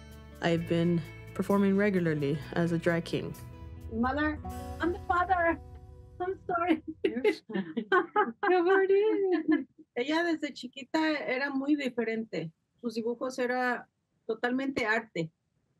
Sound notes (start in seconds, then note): 6.9 both laughing; 9.6 speaks in Spanish